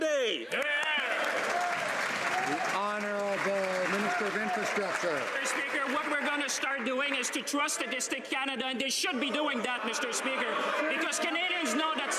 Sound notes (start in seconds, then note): 4.3 some Applause